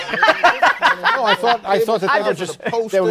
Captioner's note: laughing